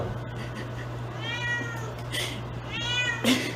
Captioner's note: meowing continues